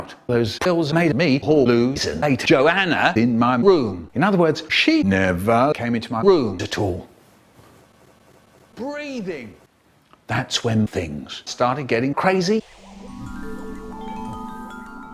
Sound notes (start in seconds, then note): 8.7 breathing